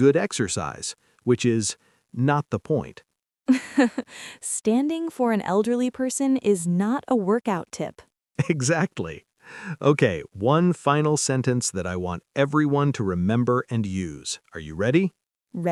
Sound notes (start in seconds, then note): 3.5 laughs; 8.4 laughs